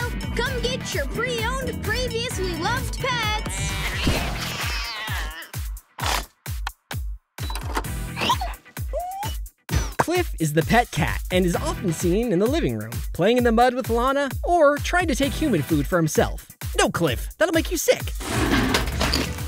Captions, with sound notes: Come get your pre-owned, previously loved pets! [meowing] [whimpering] Cliff is the pet cat and is often seen in the living room playing in the mud with Lana, or trying to take human food for himself. No, Cliff. That'll make you sick.